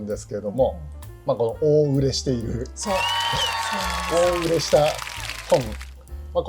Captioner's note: laughs